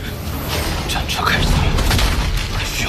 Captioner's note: the war chariot starts